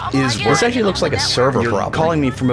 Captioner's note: overlapping callers complaining